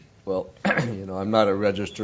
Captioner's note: cough